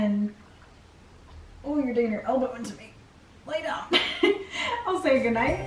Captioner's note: laughs